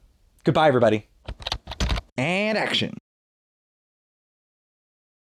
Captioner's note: typing